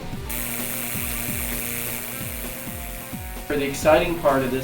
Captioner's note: zapping sounds